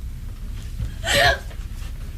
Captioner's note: girl gasps